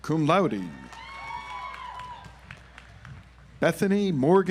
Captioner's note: audience applauds